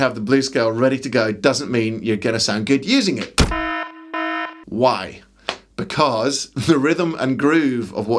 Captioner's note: klaxon